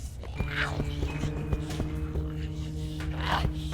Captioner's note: Giree grumbling